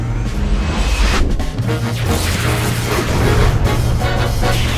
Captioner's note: robot whirs